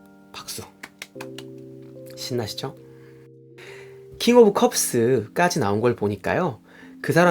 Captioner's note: clap clap clap